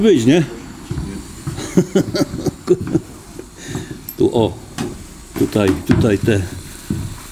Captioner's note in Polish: śmiech